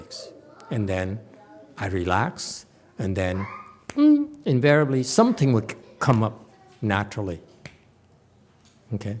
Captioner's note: snaps fingers